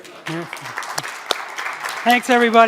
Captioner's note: applause